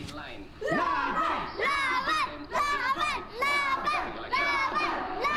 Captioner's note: chanting in foreign language